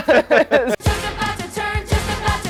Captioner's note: both laugh